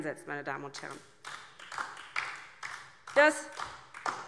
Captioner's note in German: Beifall DIE LINKE